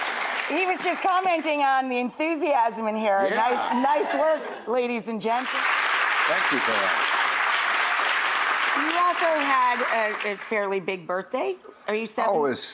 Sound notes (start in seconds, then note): 5.4 clapping